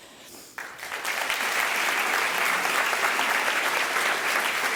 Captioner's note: applause